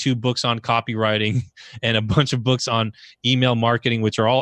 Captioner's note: laughs